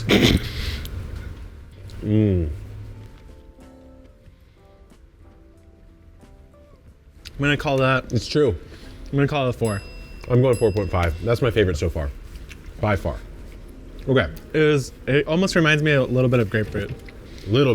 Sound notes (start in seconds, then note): 0.0 chortling; 9.5 bell chimes